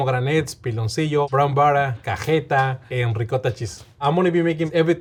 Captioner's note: speaking Spanish